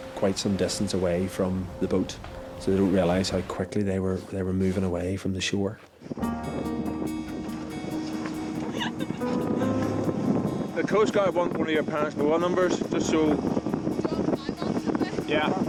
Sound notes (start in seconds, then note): 6.4 light music; 8.6 girls laughing